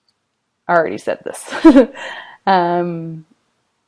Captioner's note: chuckling